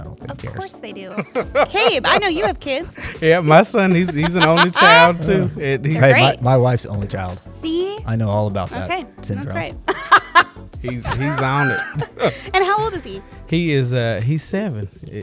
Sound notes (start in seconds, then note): 10.8 laughs